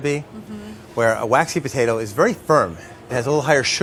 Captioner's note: none